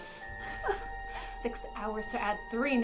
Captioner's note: Christa whimpering